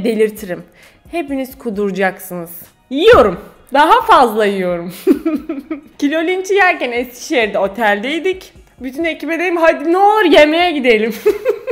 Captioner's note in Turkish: Gülüyor